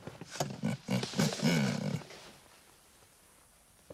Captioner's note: chuckles